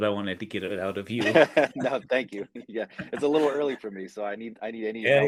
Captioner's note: laughs